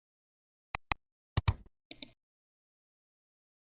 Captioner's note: 3 different clicks